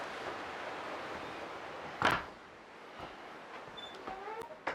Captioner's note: door slams; door squeaking